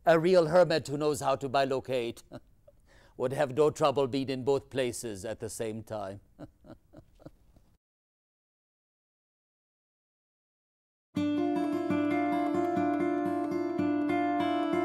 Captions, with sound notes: A real hermit who knows how to bilocate would have no trouble being in both places at the same time. (laughs) (gentle guitar music)